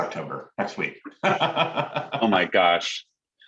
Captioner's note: laughs